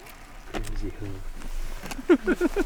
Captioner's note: muffled chattering; laughing